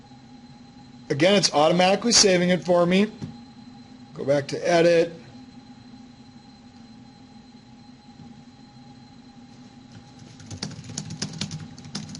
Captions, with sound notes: Go back to edit (typing). The best part about this is you can build your own